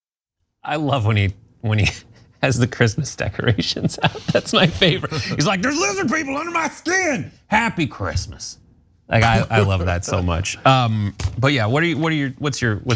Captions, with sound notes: >> I love when he has the Christmas decorations. [LAUGH] That's my favorite. He's like there's lizard people under my skin, happy Christmas. I love that so much. But yeah, what's your take?